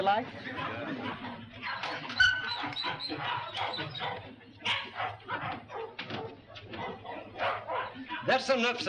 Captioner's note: dogs barking